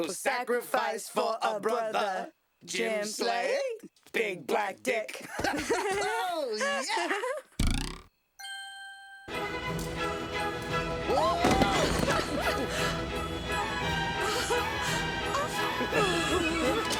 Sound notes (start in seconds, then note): 7.6 breaking wind; 14.6 muffled giggles